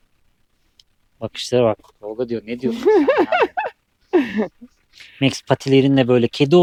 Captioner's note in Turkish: kahkaha